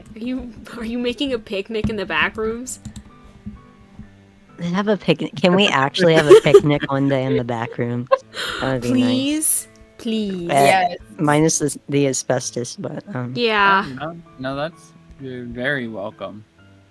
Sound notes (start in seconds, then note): 5.3 laugh; 8.2 gasps